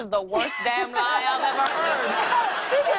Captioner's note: laughter